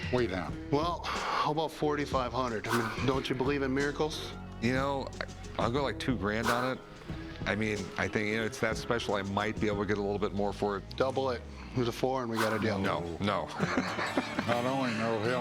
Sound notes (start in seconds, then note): 13.4 laughs